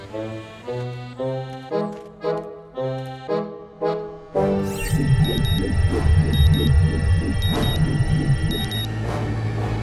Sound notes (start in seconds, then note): 3.8 warping music; 4.6 machine beeping